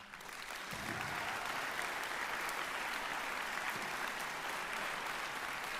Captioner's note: applause